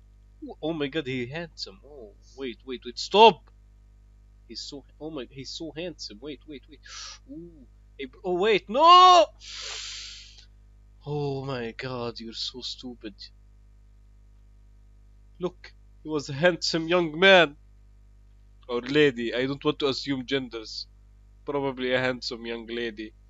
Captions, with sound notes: Oh my god he handsome Ooh Wait wait STOP He's so-- oh my-- he's so HANDSOME Wait wait wait *inhale* Ooooo Hey br-- oh wait NOOO! *AGGRESIVE INHALE* *exhale* oh my god you're so stupid Look... He was a handsome young man Or lady...I don't want to assume genders Probably a handsome young lady